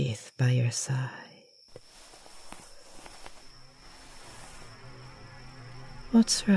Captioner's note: rustling, strange humming